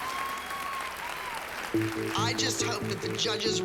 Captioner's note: cheering